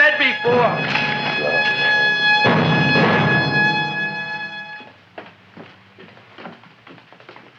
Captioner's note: dramatic music; Audrey Jr. munching